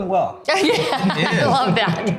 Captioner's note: laughing